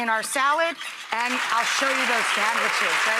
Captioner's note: audience applauds